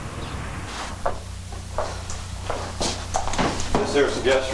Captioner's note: wind howling; footsteps tapping